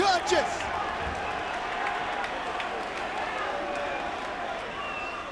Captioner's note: crowd chattering